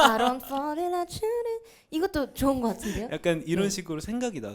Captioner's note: laughs